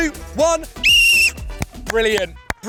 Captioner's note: whistle blows